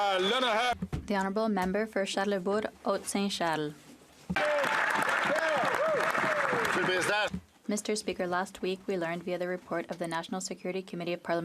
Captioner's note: some Applause